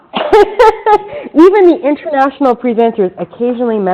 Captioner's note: laughs